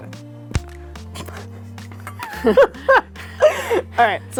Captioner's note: laughs